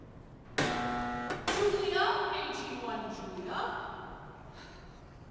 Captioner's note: buzzer